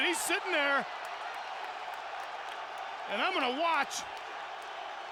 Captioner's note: applause